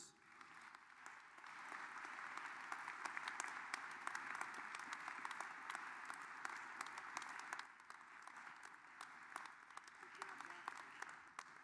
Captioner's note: applause